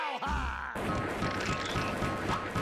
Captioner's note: gun firing